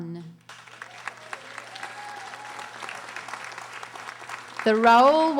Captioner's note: audience applauding